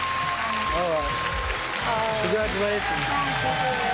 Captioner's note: dinging, applause